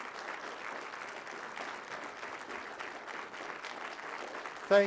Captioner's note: applause